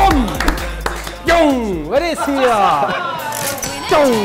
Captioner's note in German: Lachen